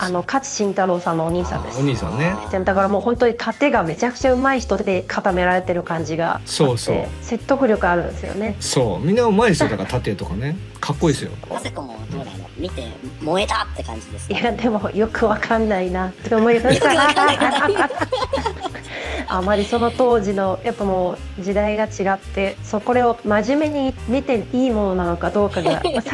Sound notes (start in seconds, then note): 16.6 laughs